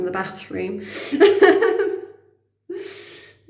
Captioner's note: laughing